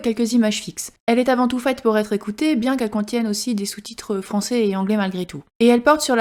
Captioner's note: in french